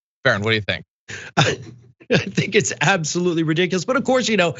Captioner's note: laugh